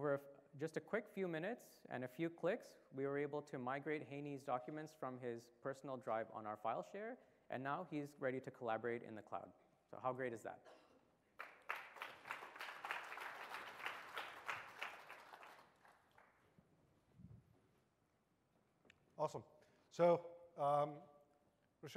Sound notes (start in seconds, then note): 11.3 applause